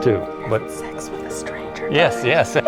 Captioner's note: whispering